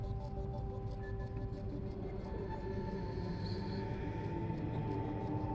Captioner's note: echoing voice speaking